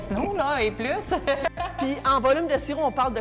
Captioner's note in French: laughs